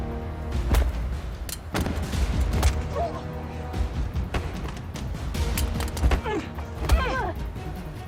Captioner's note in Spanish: Disparos; Golpes